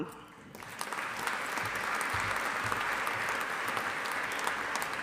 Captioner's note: audience applauding